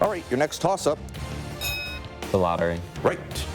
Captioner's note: bell rings